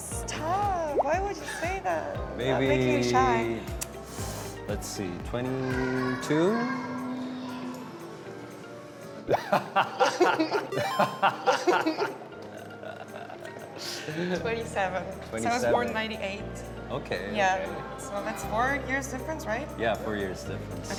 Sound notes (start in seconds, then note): 9.3 Bradley’s bright laugh that hadn’t shown before